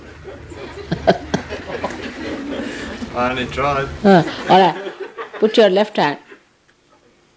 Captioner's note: laughter